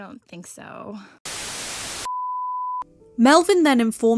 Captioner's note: static